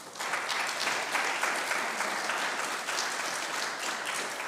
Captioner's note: congregation clapping